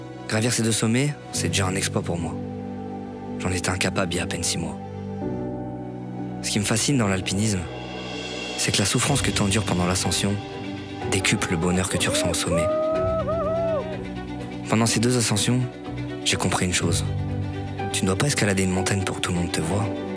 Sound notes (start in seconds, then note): 11.1 cry of victory